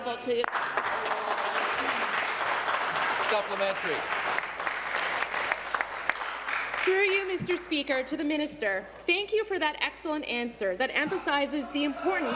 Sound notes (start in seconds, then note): 6.5 applause